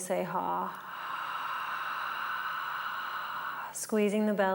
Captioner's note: breathing